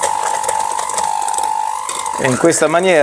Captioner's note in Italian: Applauso